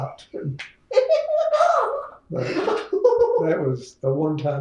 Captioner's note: laughter